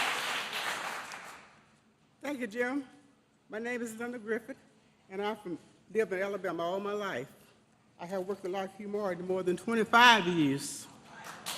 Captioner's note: applause